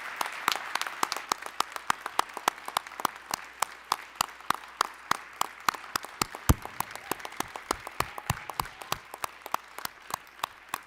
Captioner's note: applause, cheering; applause